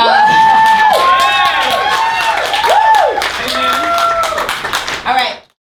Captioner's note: audience cheers and applauds